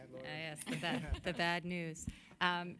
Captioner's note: laughter